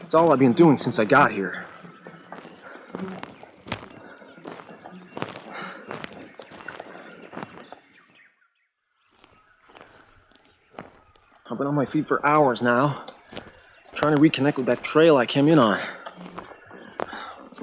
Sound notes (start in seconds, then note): 3.1 footsteps clomping